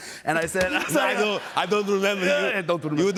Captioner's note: laughter; as Schwarzenegger